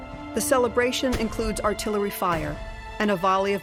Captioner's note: gunfire